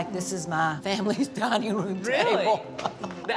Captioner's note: laughs